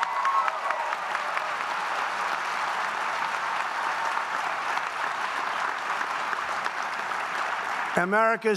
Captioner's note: applause